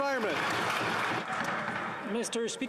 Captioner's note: applause